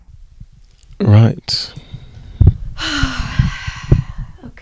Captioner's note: sigh